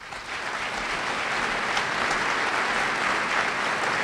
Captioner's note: applause